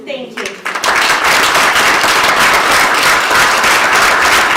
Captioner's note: applause